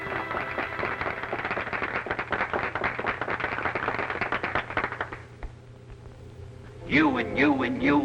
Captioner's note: applause